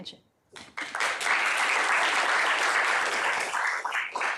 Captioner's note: applause